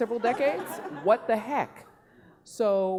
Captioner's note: laughing